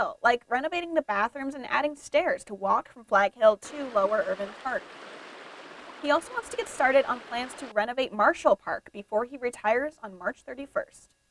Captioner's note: 1 sec of nat water running